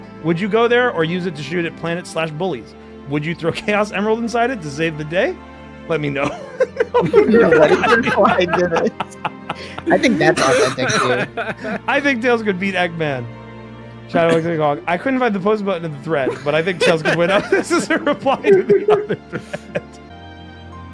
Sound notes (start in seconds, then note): 6.2 laughter; 6.2 laughs; 11.2 laughter; 16.2 laughs; 16.2 laughter